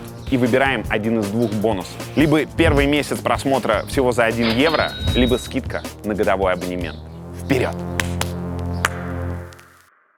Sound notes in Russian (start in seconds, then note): 7.9 прихлопывает